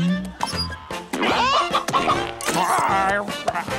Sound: clucking

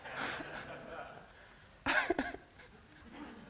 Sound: laughter

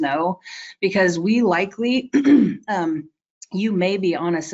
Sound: clearing throat

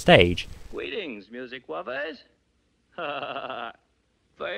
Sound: chuckles sheepishly

